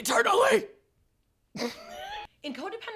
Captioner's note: laughing